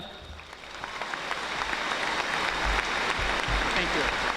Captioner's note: audience applauding